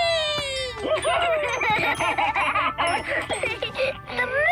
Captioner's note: laughing